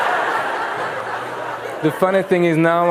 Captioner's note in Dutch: gelach